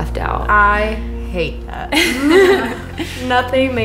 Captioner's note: laughter